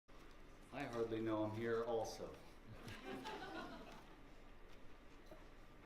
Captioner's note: laughter